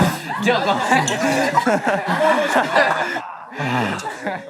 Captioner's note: haha